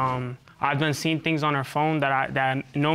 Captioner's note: stutters